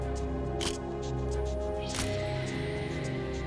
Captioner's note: camera shutter click